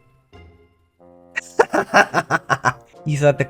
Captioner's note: laughter